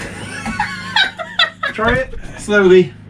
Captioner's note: laughs